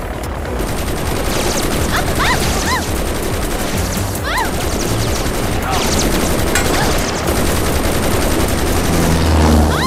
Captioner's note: Rapid gunfire